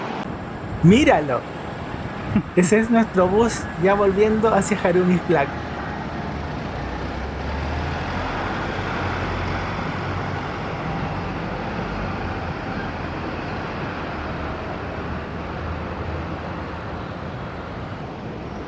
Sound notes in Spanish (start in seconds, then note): 6.5 sonido ambiente con el bus Toyota Sora de Tokyo BRT